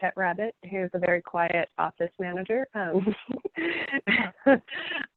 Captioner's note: laughing